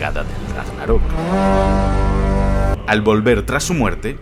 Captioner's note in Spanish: suena el Gjallahorn